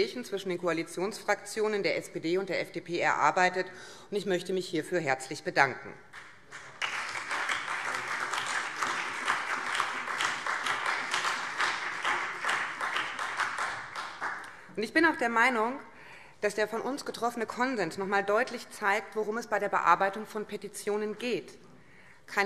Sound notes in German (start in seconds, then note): 6.1 Beifall BÜNDNIS 90/DIE GRÜNEN, CDU, SPD und Freie Demokraten